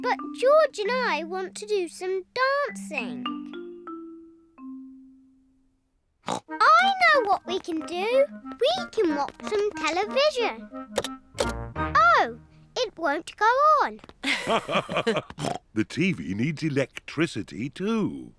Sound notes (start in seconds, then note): 6.2 snorts; 14.2 both laugh